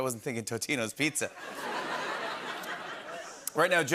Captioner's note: laughter